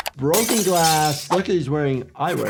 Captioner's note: glass shatters